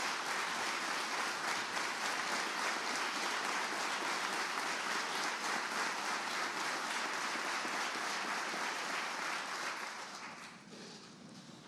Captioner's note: applause